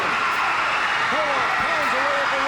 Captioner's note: audience cheers